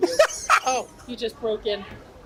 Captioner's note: laughs